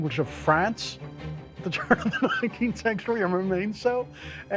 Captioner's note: laughing